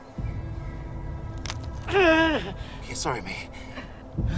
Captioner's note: bones crunching